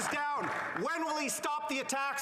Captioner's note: applause